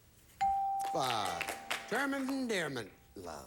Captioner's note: audience applauding